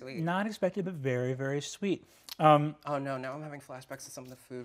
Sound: none

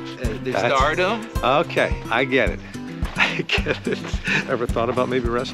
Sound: chuckles

